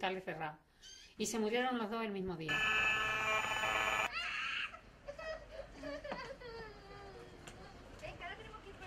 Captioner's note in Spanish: Sonido sistemas inalámbricos , niño llorando